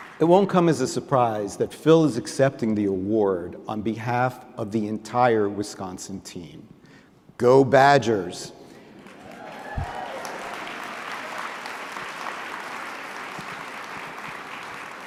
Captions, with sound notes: It won't come as a surprise that Phil is accepting the award on behalf of the entire Wisconsin team. Go, Badgers! [APPLAUSE]